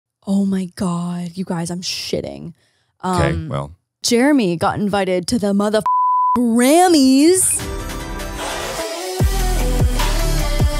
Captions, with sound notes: - Oh, my God, you guys I'm shitting. - Okay, well. - Jeremy got invited to the mother - (beep) Grammy's. (upbeat music)